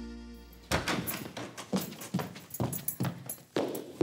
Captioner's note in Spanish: Sonido al cerrar la puerta